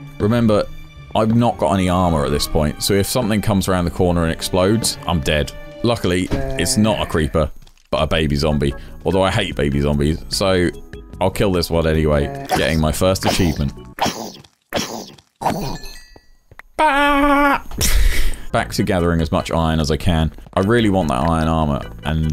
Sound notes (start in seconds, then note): 14.3 zombie noises; 16.9 achievement noise